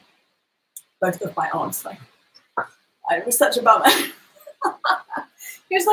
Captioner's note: laughs